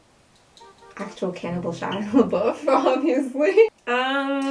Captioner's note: laughing